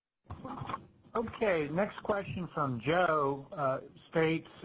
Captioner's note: voiceover